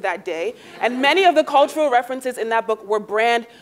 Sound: laugh

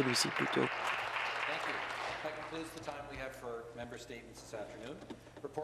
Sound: applause

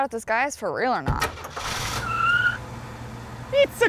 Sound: tires Screeching

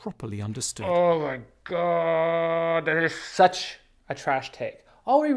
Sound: groaning

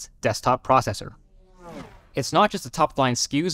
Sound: car buzzing

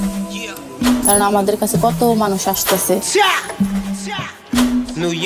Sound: speaking in a foreign language

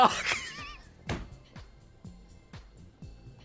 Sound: laughs

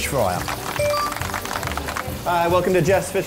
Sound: clapping; video game coin sound

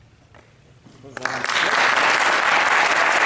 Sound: applause

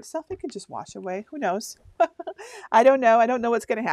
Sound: laughs

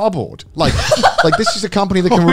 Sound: laughing

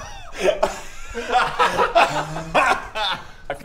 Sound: giggles

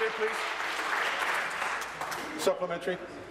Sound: applause

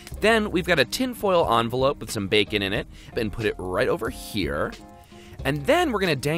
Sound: none

